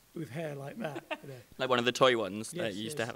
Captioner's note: laughs